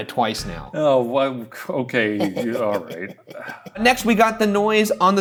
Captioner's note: sighs